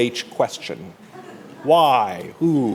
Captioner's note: laughter